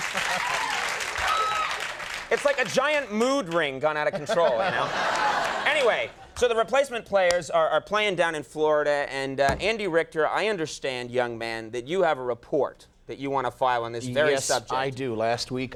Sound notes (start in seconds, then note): 4.0 audience laughs